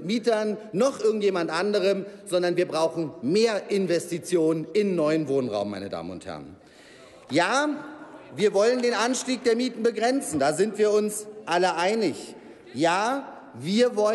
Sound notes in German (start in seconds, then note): 7.4 Applaus